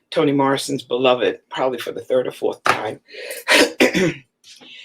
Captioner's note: coughs